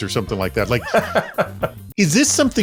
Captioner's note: laughs